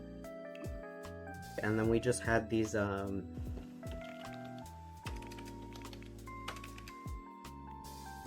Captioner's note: typing